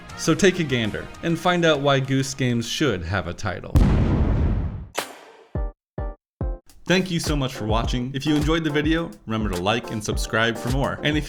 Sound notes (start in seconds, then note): 3.7 boom; 5.0 outro music